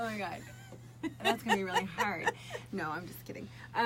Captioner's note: laughs